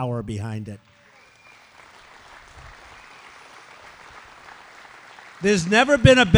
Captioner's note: applause